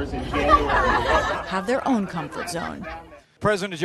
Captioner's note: laughter